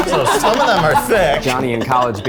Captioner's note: all laughing